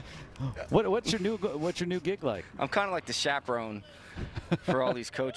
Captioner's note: laughing